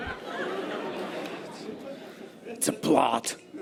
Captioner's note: audience laughter